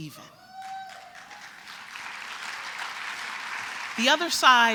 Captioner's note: applause